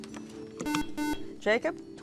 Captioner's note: buzzer